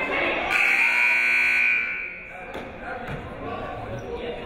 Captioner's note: buzzer rings